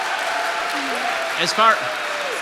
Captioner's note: audience applause